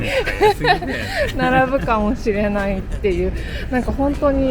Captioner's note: laughs